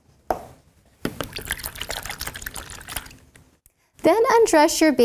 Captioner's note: water sloshing